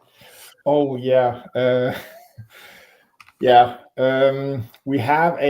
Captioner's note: chuckles